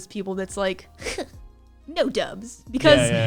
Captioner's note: sneers